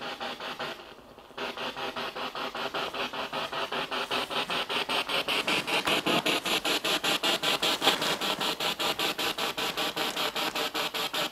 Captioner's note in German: Noise of the spiritbox in the background